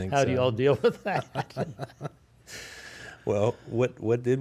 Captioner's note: chuckles